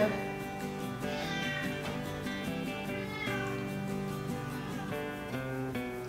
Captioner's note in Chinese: 喵叫聲